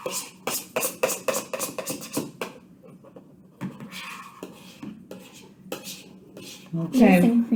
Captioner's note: scrapes bowl with spoon, puts spoon in mouth